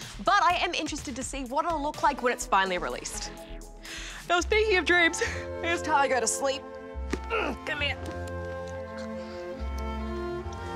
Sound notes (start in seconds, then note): 4.0 yawns; 7.3 grunts